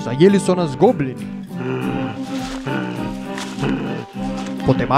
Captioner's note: grunting